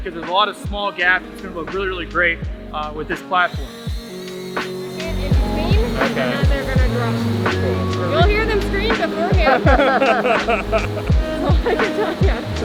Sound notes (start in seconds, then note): 4.3 drone whirring; 8.3 inaudible chatting and laughter